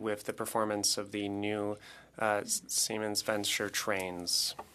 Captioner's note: speaking French